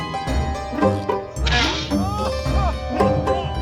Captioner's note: arrow thudding; people laughing